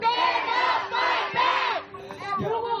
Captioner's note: crowd